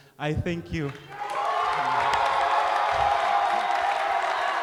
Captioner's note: cheering